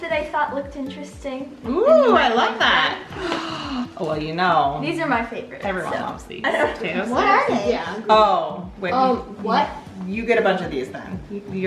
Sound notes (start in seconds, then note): 3.1 gasps